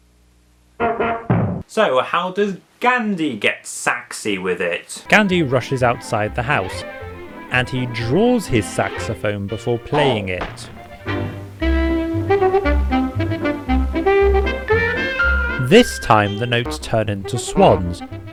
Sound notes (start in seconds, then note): 0.6 honks; 10.8 plays saxophone